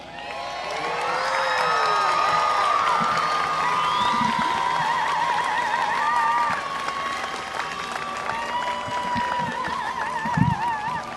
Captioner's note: applause and cheering